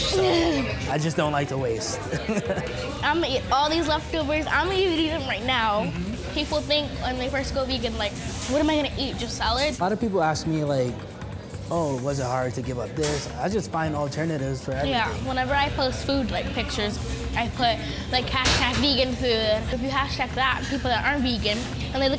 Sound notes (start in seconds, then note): 1.9 laughs